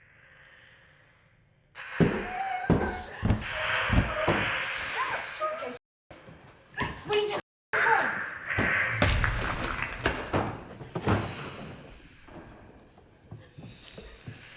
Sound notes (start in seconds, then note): 2.7 Pepper moaning; 9.7 snake hissing